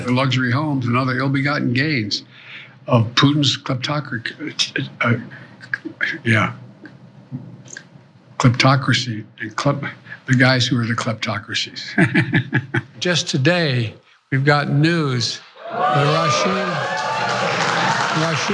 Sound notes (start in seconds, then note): 11.9 laugh; 16.1 applause